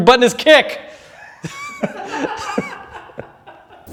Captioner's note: laughing